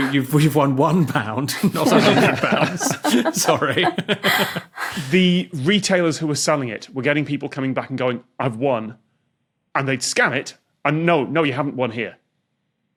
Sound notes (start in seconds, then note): 1.5 guests laughing